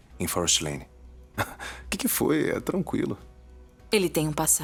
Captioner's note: laughter